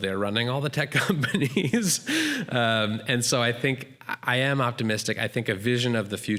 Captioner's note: laughs